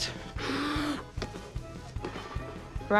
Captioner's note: blows